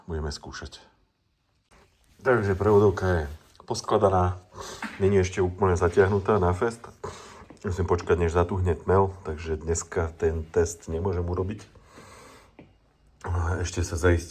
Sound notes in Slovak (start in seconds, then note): 4.2 smrkanie